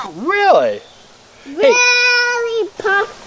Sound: voiceover

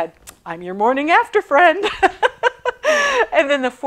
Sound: laughing

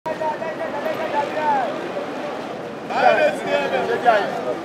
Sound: commotion, traffic sounds

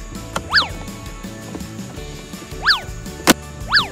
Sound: swish

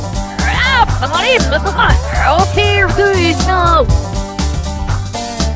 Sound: speaking in zombie languange

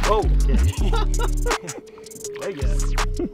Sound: laughing

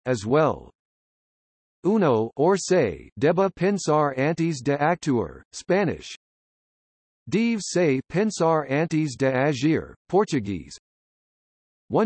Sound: Spanish

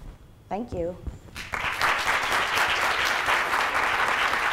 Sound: audience claps

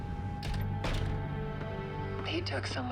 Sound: door opens and closes

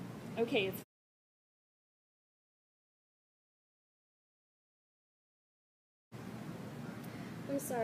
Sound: muted

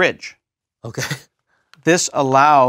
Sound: laugh

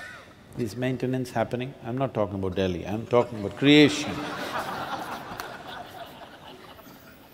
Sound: laughter

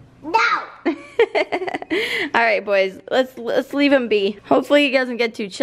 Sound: laughs

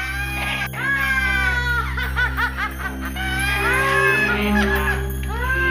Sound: cackling

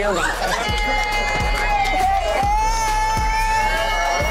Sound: cheers

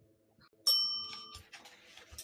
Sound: bell dings

